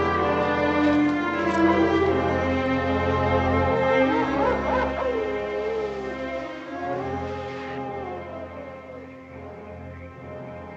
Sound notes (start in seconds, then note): 1.2 coyotes howling